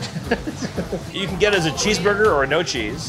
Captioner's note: person laughing